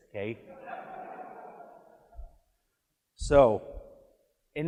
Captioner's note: audience laughs